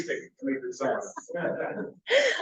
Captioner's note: laughs